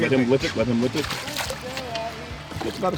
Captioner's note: fish splashing